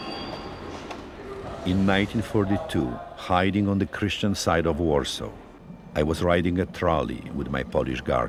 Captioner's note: voice-over